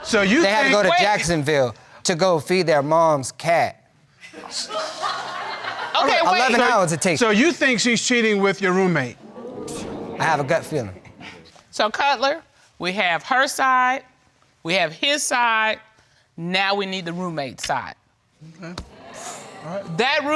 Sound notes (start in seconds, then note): 4.4 laughing; 9.2 audience exclaiming